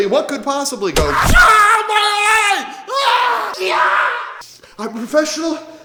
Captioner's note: bow shoots an arrow